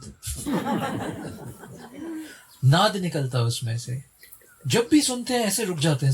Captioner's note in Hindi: हंसी